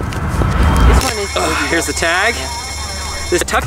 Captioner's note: sirens wail